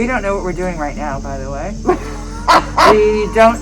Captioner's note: laughing